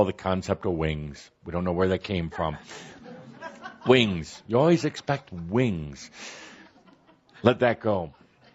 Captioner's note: laughter